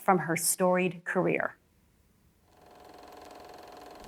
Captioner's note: projector whirring